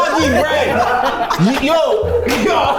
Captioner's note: everyone laughs